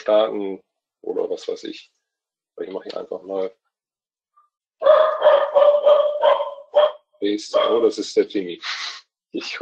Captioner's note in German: Hund bellt